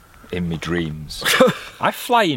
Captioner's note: laughs